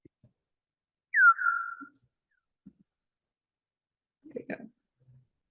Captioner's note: bat chirping